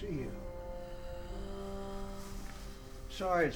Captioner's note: faint moaning